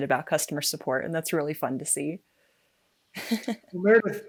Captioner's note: laughing